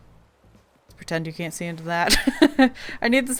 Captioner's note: laughs